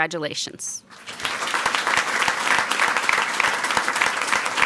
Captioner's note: people clapping